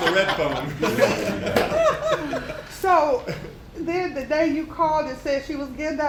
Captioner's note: laughter